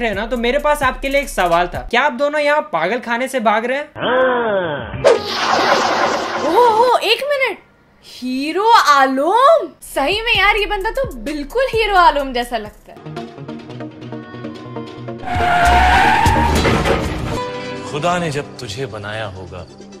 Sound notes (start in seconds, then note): 5.1 some swooshing Zoro sword sounds; 15.2 tires screech